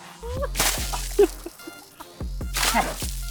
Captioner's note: splash!!!